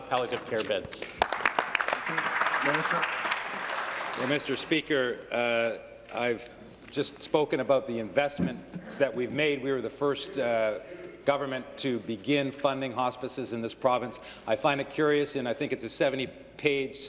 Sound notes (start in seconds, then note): 5.4 applause